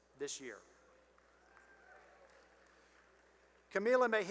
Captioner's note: cheering and applause